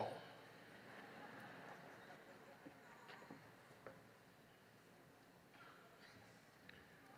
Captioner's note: laughter